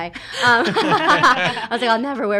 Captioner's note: laughs